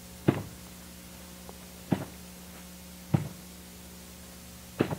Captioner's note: muffled rhythmic thumping